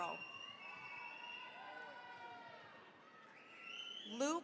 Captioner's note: cheering, applause